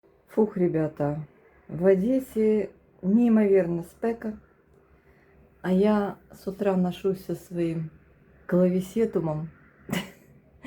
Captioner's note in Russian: смех